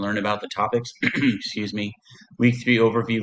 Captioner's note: clears throat